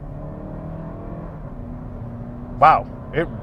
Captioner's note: car accelerating